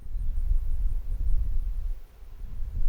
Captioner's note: wind blowing